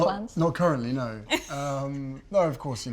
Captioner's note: Meghan laughs